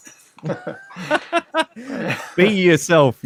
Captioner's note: laughs